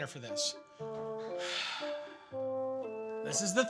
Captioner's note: sighs